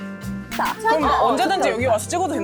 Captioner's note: finished taking them sound effect